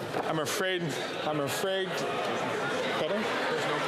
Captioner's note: chatter